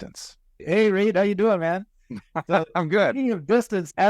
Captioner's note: laughs